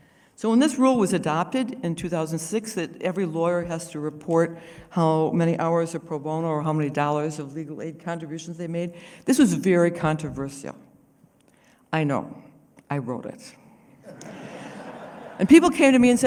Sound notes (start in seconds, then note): 14.0 laughter